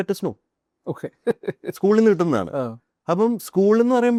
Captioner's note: laughs